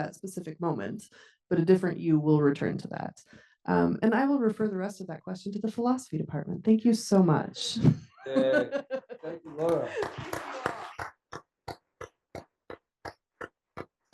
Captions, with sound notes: that specific moment, but a different you will return to that. And I will refer the rest of that question to the philosophy department. Thank you so much. (chuckles) - Yay, thank you, Laura. (attendees applauding)